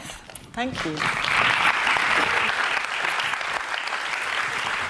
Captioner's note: audience clapping